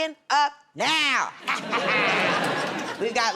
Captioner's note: laughter